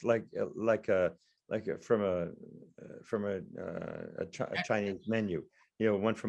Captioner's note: speaking faintly